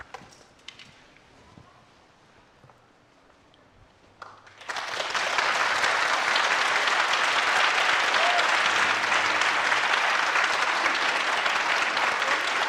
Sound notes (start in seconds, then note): 4.3 audience applauding